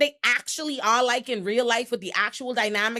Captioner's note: none